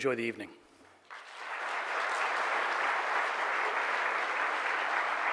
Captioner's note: audience applauding